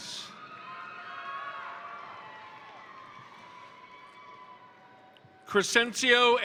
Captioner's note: crowd cheering; crowd applauding